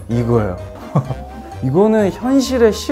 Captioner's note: chuckles